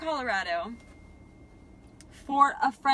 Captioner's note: phone dinging